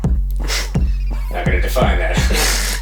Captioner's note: chuckles; laughs